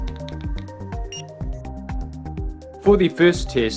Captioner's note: device beeps